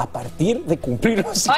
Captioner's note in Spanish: risas